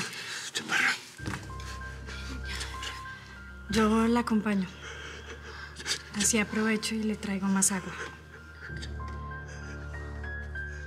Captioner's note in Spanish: Susurra